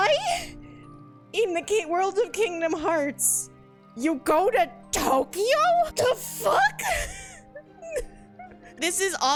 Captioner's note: laughs